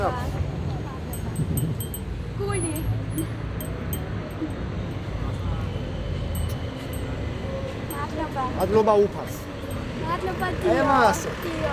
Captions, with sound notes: Thank you … heart … [in Georgian] Thank God. [in Georgian]